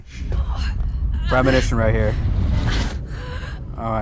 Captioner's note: groaning